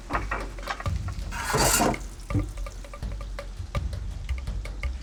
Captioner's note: utensil clattering